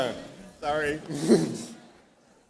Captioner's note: laughs